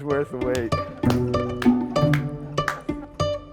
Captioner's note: claps; lively music